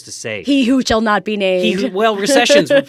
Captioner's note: laughs